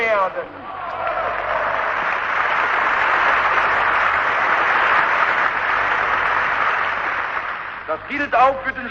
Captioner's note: applause